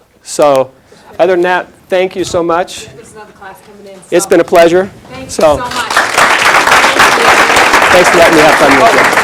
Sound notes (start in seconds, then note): 5.4 applause